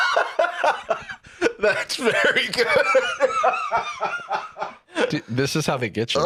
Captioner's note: continues laughing helplessly; laughing